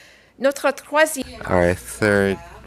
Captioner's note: speaking in French